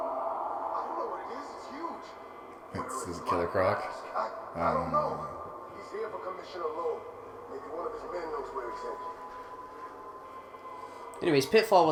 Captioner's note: loud Roar